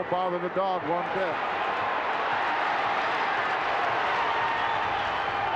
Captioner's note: crowd cheering